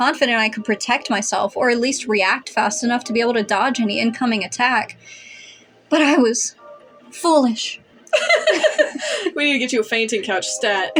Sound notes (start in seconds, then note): 5.0 inhale; 8.0 chuckle; 8.0 laugh